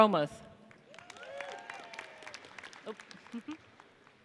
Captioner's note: audience cheers